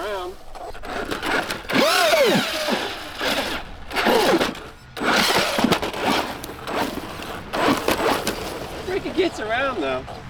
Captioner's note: wind Blowing